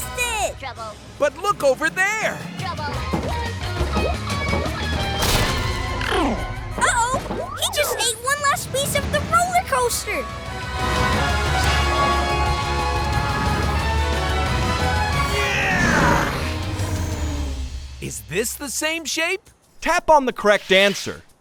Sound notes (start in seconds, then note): 15.2 grunting